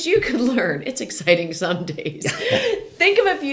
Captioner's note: laughing